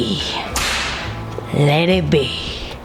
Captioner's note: whip cracking